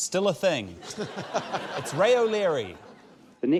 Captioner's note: laughter